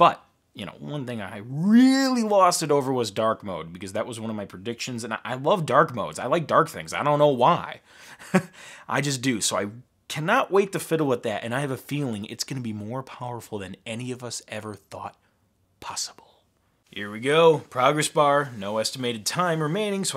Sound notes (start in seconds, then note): 8.1 laughing